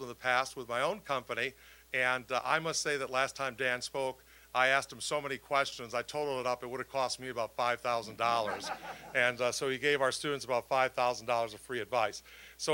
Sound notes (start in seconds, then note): 8.3 audience laughing